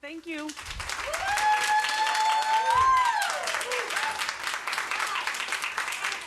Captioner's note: audience applauds and cheers